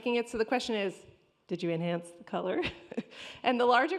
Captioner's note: chuckles